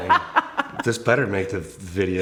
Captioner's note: laughing